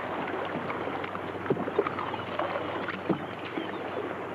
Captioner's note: water laps